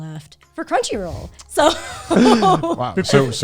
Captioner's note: laughs